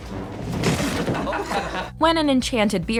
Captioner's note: laughter